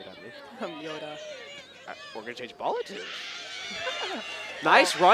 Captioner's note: mimicking yoda's voice